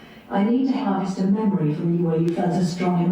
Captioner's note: AI Voice